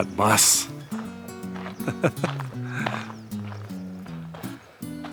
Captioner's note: laughs